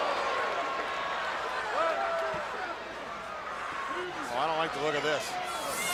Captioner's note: crowd chatter